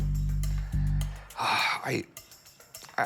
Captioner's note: sighs